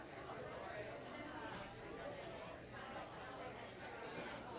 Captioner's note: audience chatter